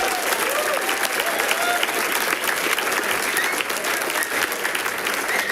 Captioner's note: people cheering and clapping